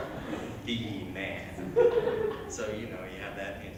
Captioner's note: chuckles